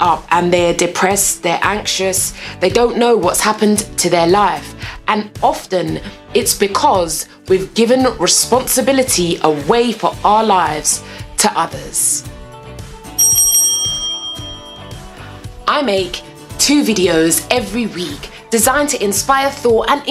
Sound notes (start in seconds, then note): 13.2 bell dings